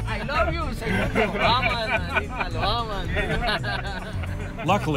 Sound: laughs; speaking Spanish

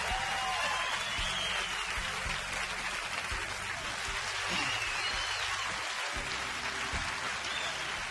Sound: audience cheering

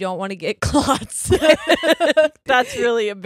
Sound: both laugh

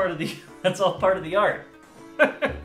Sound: through chuckles; chuckle

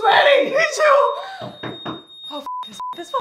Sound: knocking at door

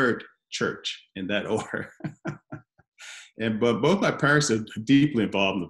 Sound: laughs

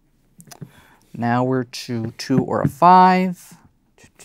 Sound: taps table

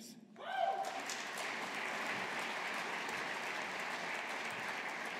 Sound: audience applauding

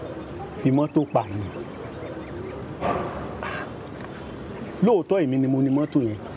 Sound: man speaking in foreign language

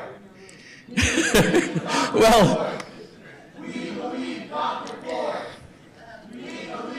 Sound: laughing

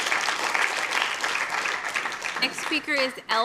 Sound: applause

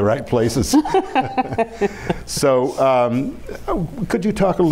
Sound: laughing

